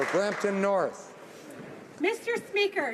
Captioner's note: applause